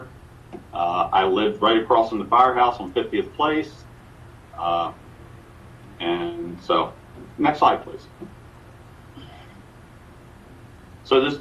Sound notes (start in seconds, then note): none